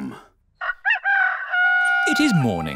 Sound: rooster crowing

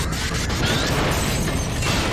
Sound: explosion

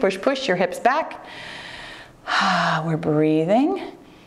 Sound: breathes heavily

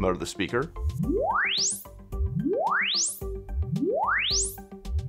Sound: repeating sweep tone playing

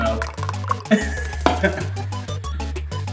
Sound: laughter

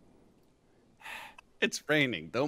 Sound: sigh

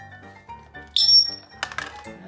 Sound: high pitch sound

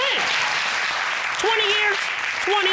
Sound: audience clapping

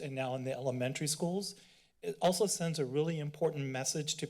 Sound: inhales

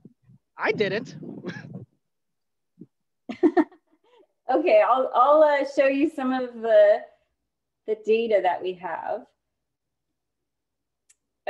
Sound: laughter

